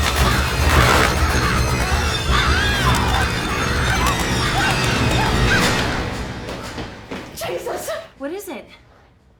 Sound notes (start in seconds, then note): 2.5 screams